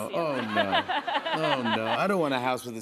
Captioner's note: laughter